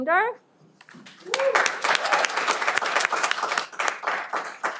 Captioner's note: cheering